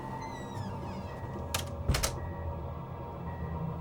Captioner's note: door squeaks